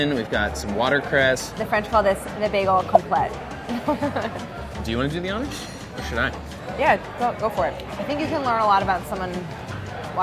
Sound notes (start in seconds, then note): 2.9 bubbles popping; 3.5 laughing